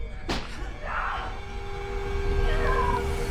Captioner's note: neighbor screams; tense eerie music intensifies